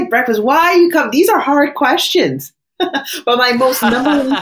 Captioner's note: laughs